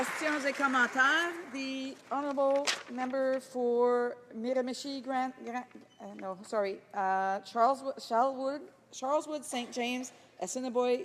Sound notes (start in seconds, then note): 0.0 applause